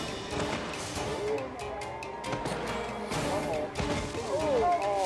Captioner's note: body thudding